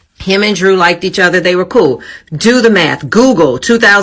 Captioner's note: none